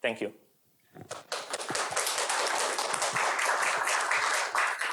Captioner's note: applause